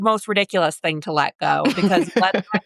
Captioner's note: laughs